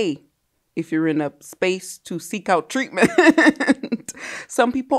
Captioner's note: laughs